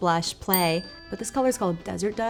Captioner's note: bell pings